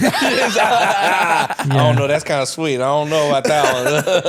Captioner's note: laughing